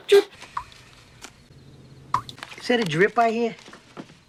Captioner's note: tap dripping